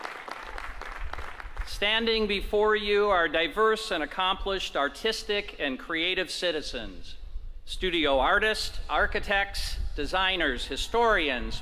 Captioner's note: applause